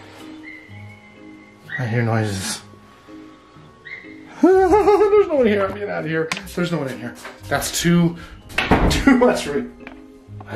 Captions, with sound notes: I hear noises. (nervously laughing) There's no one here, I'm getting out of here! There's no one in here. That's too, too much-- (door shuts)